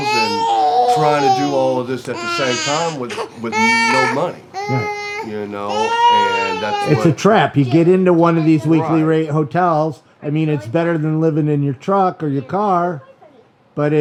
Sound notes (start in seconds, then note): 4.2 baby crying